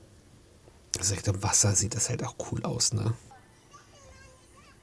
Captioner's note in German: weinen